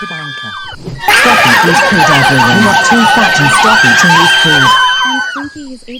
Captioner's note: girls Screaming; whoosh Sound